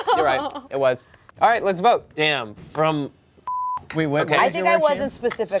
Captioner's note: beep